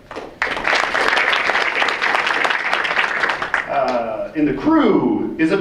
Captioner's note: audience applauds